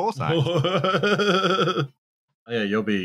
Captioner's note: laughs